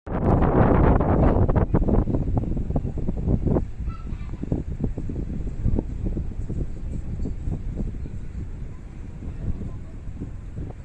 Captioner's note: wind